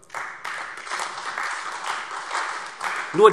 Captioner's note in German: Beifall AfD